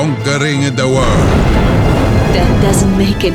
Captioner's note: flames roar